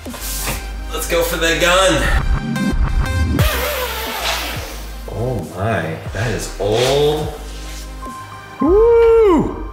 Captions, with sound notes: Let's go for the gun. (zip screeches) Oh my, that is old. Woo!